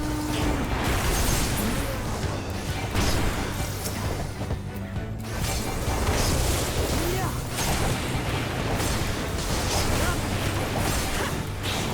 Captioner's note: explosions